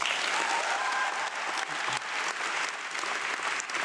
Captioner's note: audience clapping